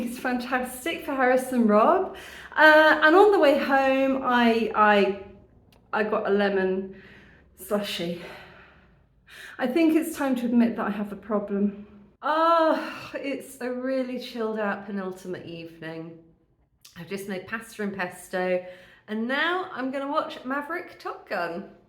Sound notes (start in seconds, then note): 8.4 sigh